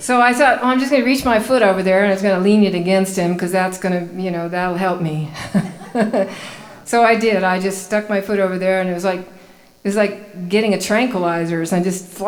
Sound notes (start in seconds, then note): 5.3 laughing